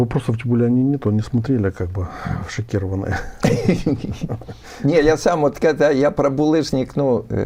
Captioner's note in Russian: смех